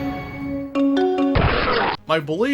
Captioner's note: splat!